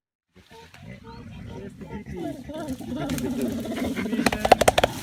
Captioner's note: gorillas grunting